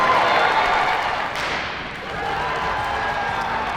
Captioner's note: audience cheers; starter pistol shoots; audience cheers